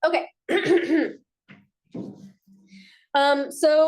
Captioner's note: clears throat